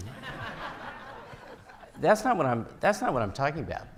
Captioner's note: audience laughing